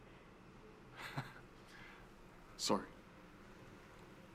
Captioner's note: chuckles